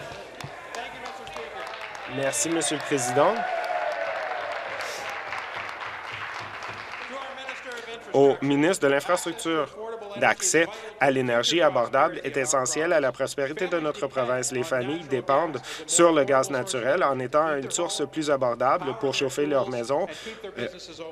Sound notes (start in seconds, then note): 4.3 applause